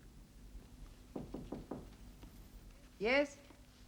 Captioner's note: knocking